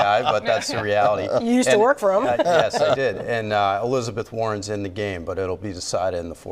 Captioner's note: laughter